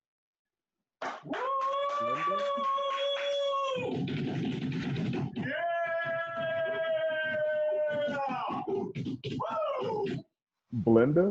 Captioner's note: cheers; drumrolls